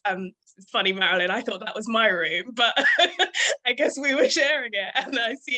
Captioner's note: laughing